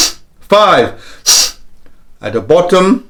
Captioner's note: deep breaths